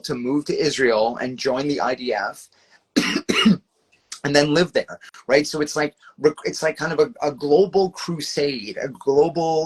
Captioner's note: coughs